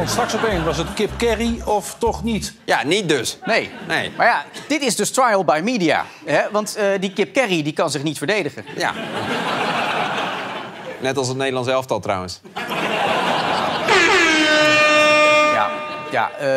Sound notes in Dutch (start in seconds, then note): 8.6 gelach; 12.6 gelach, toeter